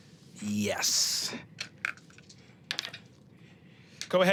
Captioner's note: dice rolling